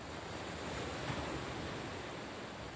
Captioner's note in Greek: τα κύματα σκάνε